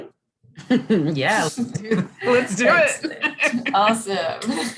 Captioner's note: laughs